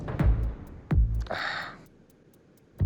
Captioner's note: sighs